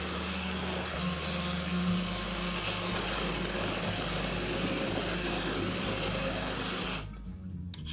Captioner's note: sound of blender